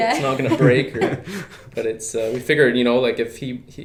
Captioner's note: laughing